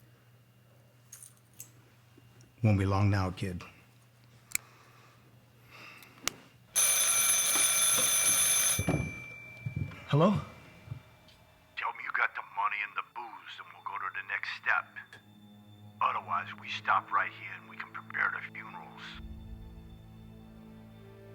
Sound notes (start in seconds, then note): 6.4 ringing